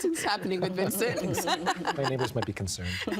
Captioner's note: laughing